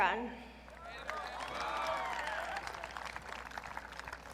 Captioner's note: audience cheering